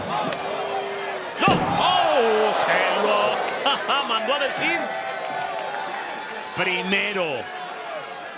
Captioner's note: laugh